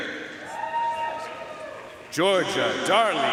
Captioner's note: audience cheering and applauding